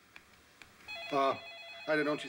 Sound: rings

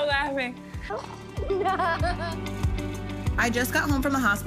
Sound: laughing

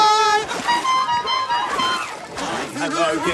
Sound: singing; horn honks; singing

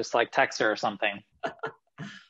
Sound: laughing

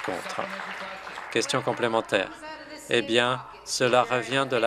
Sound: some Applause

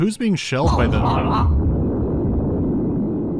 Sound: baboom

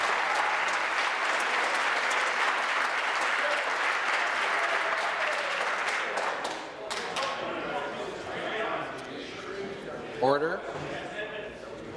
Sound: applause

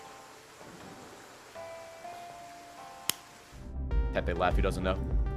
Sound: sad self-high five clap

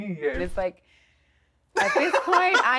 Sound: laughs

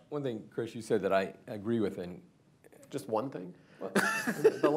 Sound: laughter

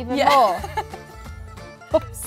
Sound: laughs

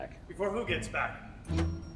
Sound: door opens

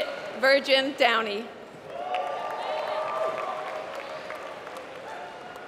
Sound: applause

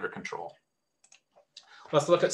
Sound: mouse clicks

